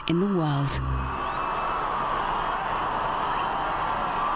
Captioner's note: crowds cheer